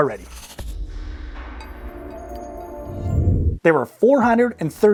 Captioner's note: logo whooshing